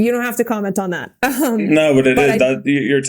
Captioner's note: Mikaela chuckling